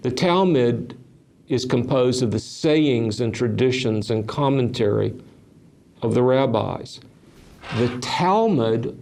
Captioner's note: chair creaks